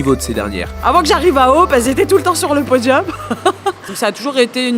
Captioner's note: laughs